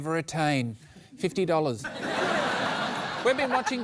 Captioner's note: laughter